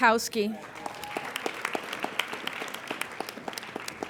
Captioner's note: applauding